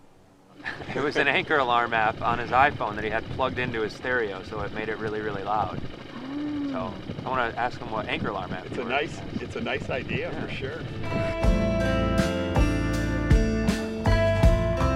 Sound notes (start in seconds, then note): 6.0 motor running; 11.0 groovy music